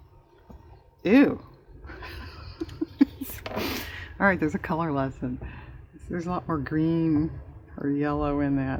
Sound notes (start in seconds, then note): 1.9 laughs